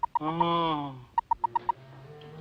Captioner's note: moans